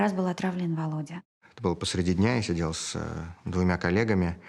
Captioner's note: speaking Russian